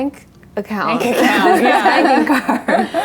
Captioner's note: laughing; both laughing